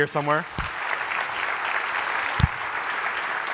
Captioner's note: applause